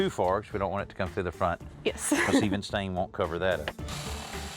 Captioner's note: chuckles; drill whirring